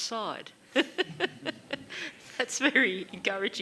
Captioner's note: laughs